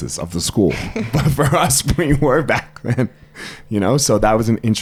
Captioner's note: laughs